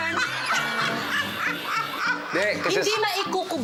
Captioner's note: laughing